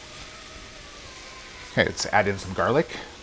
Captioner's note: sizzling